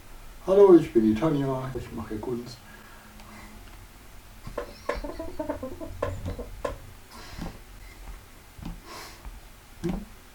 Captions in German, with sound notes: [Aus dem Off] "Hallo, ich bin die Tanja, ich mache hier Kunst..." [Aus dem Off] *Stuhl knarzt*